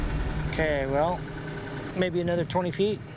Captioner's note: none